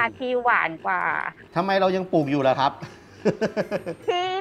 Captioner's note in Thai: หัวเราะ